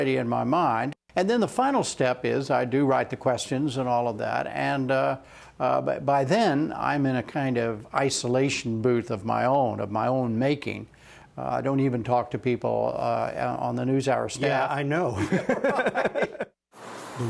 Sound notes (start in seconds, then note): 15.1 laughter